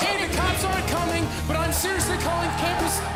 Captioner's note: fans chanting